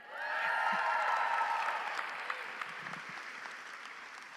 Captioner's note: audience cheers